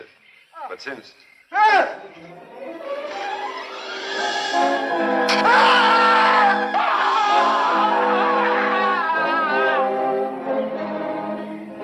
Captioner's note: screaming